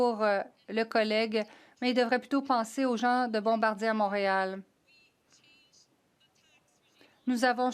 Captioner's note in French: voix de l'interprète